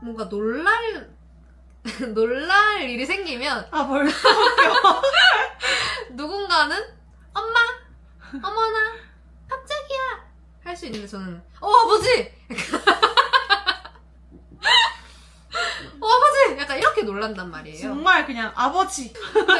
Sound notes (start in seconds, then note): 7.7 laughter; 12.5 laughter; 17.5 laughter